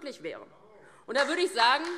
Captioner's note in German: Beifall DIE LINKE